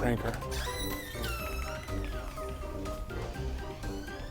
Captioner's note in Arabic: صرير الباب